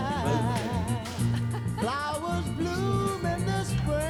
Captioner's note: laughs